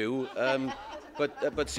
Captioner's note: laughter